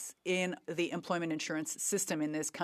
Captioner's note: speaking French